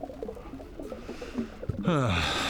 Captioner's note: sigh